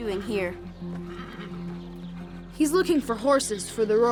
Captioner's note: horse whinnying